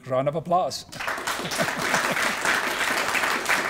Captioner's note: applause